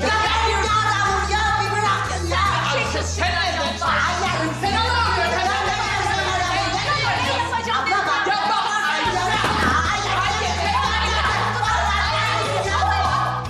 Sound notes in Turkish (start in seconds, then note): 2.6 bağrışıyorlar